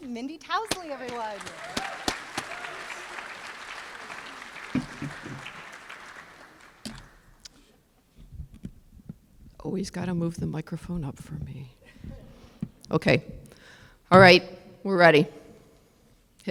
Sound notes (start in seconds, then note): 2.2 applause